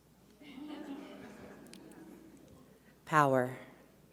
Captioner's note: audience laughs